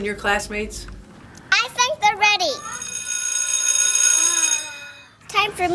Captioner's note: recess bell rings